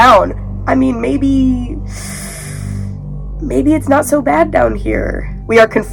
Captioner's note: sharp inhale